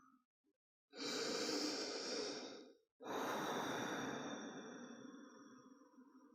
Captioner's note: inhale-exhale